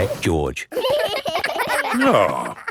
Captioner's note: giggling